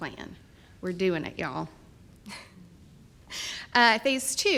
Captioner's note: chuckles